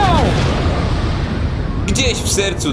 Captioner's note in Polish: boom!